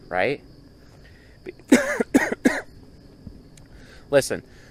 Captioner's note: coughs